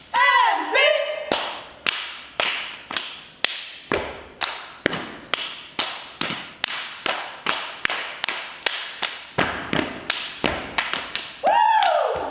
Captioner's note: rhythmic clapping and stomping